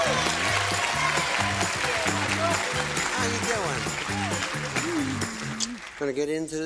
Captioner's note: applause